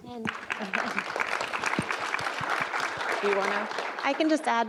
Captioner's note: audience applause